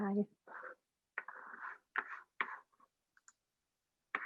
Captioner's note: board scratching